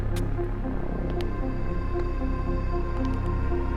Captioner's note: footsteps tapping; dramatic music